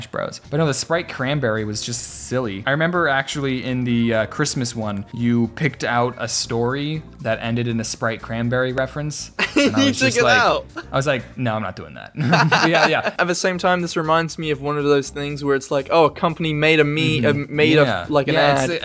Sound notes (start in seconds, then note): 12.2 both Laugh